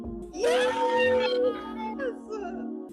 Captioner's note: cheering